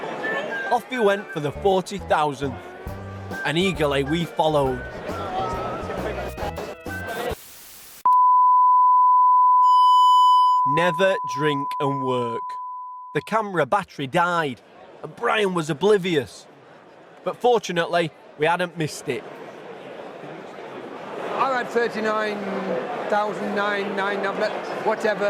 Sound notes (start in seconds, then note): 8.0 beep